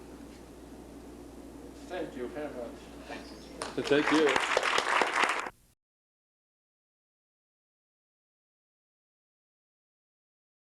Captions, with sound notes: Thank you very much. (Applause)